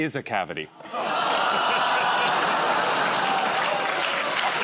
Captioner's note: audience groans; applause